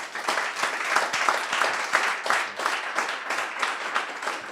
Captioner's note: crowd applauds